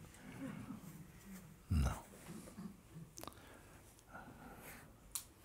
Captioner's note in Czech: Hlasy sanghy